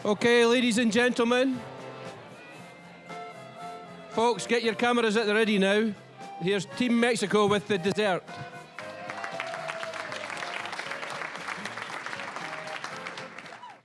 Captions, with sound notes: Okay, ladies and gentlemen... (general chatter) Folks, get your cameras at the ready now. Here's Team Mexico with the dessert. (applause)